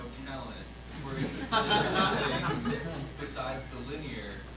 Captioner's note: all laugh